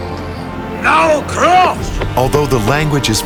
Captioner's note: speaking in foreign language